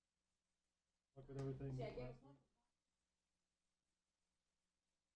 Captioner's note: quiet murmuring